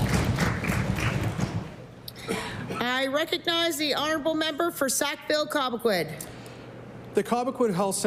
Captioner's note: applause